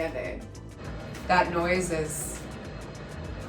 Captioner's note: walls rumbling